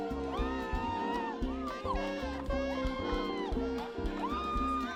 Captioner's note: people cheering